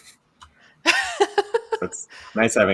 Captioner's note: laughs